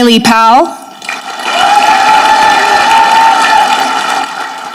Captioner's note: audience clapping